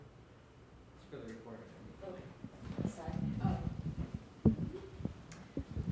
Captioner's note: shuffling